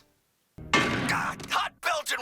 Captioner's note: clang